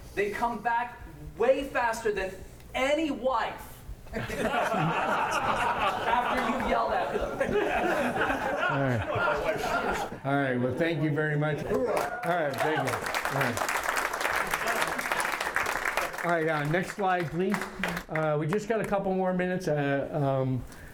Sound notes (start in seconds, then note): 7.2 heavy laughter; 11.8 applause; 12.4 applause continues